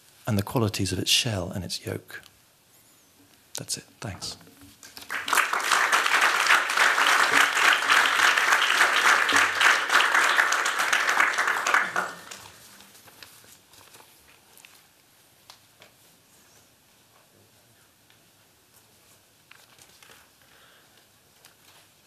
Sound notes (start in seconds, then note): 4.8 applause